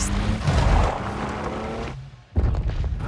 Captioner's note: screeching tires